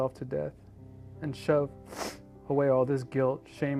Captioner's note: sniffles